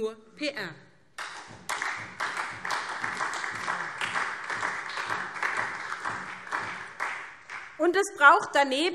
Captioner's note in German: Beifall SPD